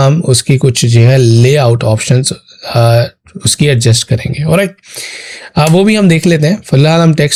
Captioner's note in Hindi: नाक से की जाने वाली आवाज़